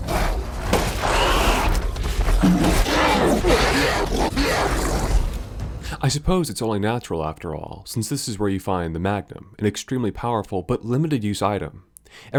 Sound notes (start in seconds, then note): 0.0 gunshots; 2.3 Lycan death cries